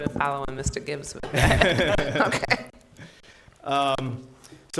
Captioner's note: laughter